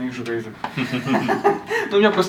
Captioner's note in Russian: смех